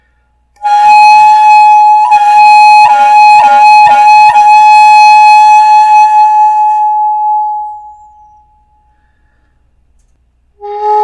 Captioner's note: phoooOoOooo